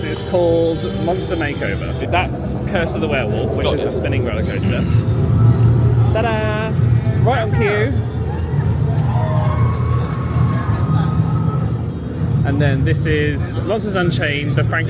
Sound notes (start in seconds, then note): 9.0 riders scream